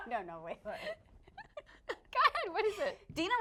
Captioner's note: laughing